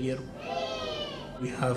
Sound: students exclaiming

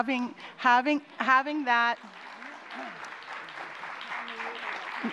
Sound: applause

